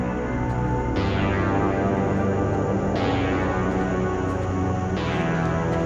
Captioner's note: tense sinister music; insects chirping